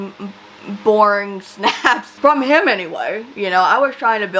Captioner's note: laughs